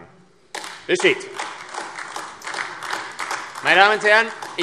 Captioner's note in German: Beifall AfD